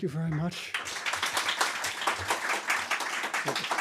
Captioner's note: applause